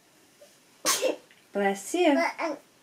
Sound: baby sneezes; baby babbles

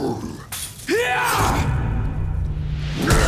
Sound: grunting; grunting

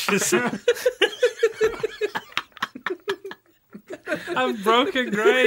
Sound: laughter

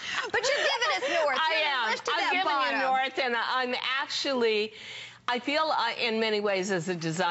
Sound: laughter

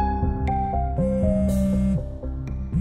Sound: mobile phone vibrating

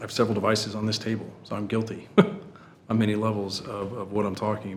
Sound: sniggers

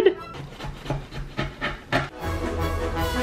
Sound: cutting; dramatic music

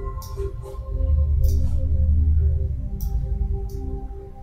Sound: mouse clicking

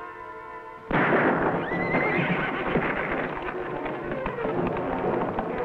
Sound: gunshot booming; Champ neighing

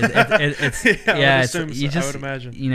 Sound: laughing

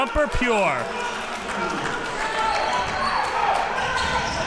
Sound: crowd cheering

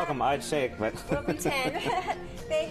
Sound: laughs

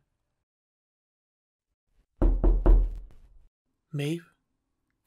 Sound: sound of knocking on the door

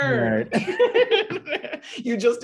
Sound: laughter

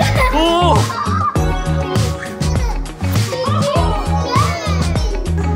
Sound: laughing

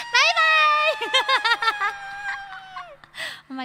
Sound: laugh

